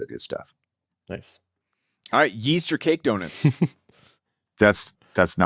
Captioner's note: laughs